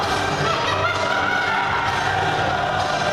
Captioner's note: laughs maniacally